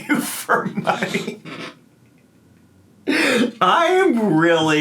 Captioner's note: laughing